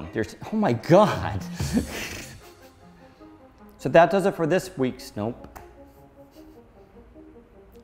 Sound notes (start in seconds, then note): 1.6 laughs